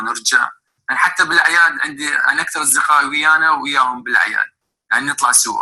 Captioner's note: man speaking foreign language